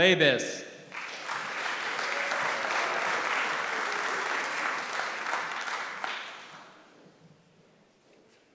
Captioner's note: applause